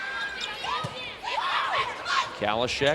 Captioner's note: players shouting